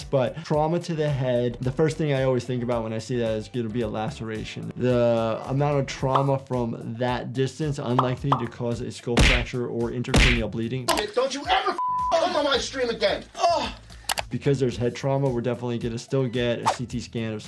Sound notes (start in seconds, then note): 11.8 beep; 13.4 Ludwig groans